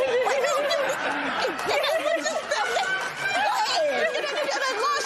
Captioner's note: laughter